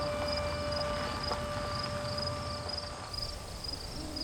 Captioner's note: bird and insect sounds